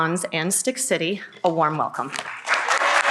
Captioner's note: applause